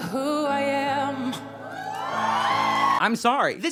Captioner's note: cheering